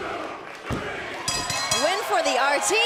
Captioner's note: bell ringing